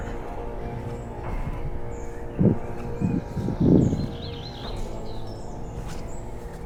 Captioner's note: birds chirping; air whooshing